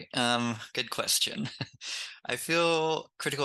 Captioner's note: laughs